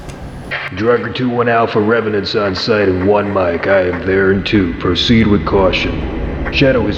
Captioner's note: voice on walkie